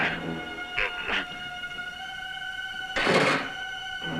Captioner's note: grunting; tense music